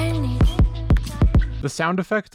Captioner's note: thump, thump, thump thump-thump